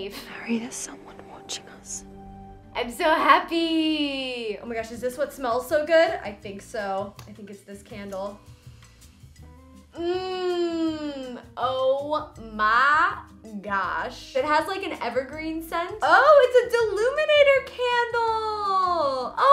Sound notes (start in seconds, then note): 8.5 inhales deeply